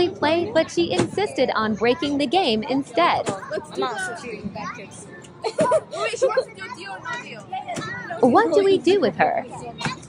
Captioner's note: mixed chatter & laughing